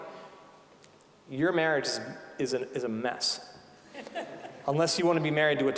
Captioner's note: scattered laughing